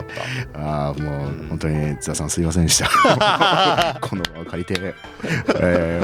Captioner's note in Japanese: 笑い